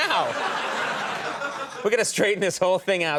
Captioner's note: audience laughing